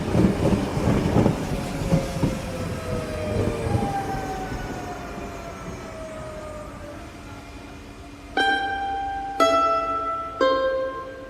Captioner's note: rhythmic sounds of electric train pulling into station